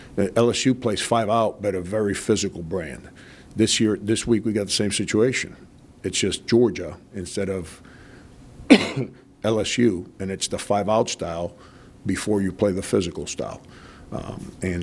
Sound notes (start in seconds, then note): 8.6 coughs lightly